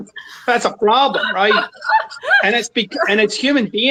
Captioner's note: laughs